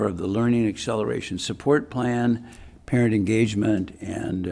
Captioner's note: none